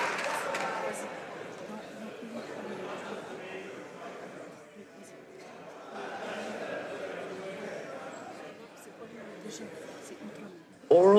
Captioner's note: applause